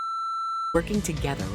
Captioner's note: beep